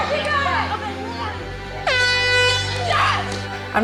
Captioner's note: horn blares